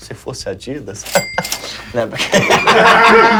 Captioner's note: som de caixa registradora